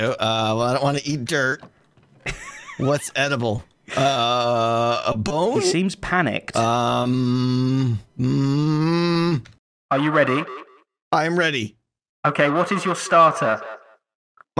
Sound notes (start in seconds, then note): 5.5 normal voice